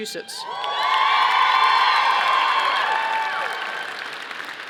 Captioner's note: audience applauding